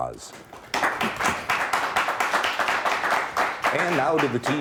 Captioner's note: applauding